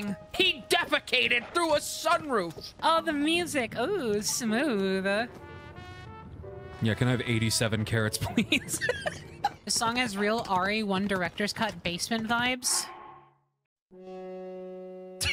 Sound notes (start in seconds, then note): 8.2 laughter; 15.1 quiet Laugh